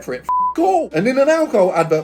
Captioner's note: beep